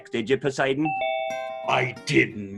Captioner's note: bell ringing